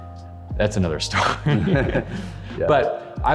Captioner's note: chuckles